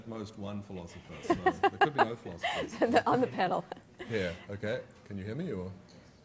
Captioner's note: laughing